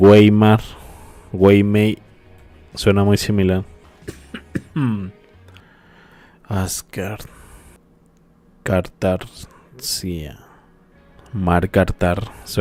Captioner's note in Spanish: carraspeo